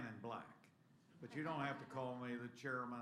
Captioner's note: laughter